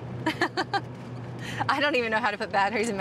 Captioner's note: laughing